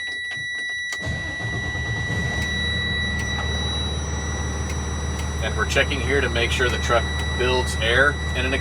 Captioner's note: engine starting